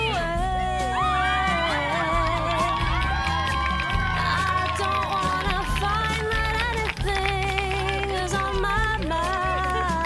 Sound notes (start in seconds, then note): 0.9 audience cheering